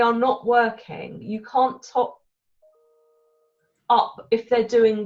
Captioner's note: computer alert pings